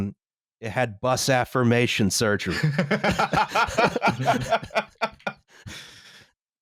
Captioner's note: laughter